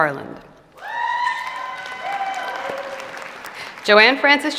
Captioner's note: applause and cheering